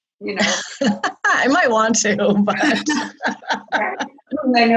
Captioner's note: laughs